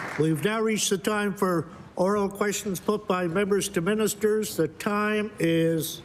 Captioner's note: applause